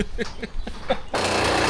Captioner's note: drill whirring